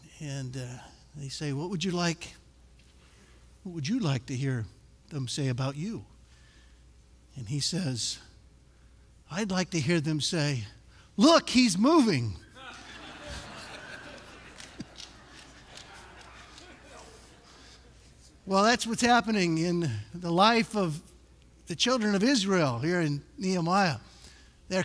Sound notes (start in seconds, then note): 12.6 loud laughter and applause; 12.6 pastor chuckles